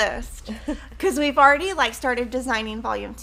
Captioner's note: women chuckling